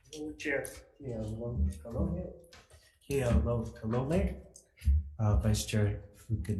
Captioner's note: speaking foreign language